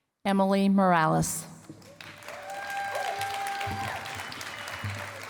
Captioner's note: cheering and applause